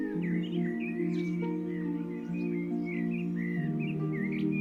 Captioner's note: bird song